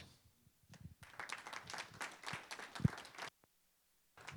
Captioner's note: applause